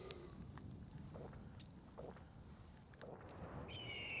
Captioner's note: gulping; birds screeching